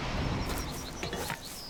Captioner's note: birds chirping